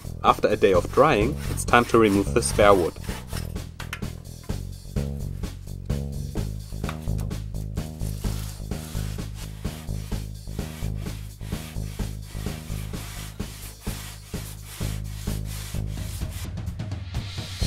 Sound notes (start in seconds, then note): 8.1 sawing, Grinding